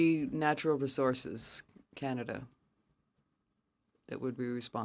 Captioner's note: speaking French